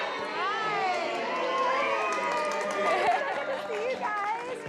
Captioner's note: cheering and applause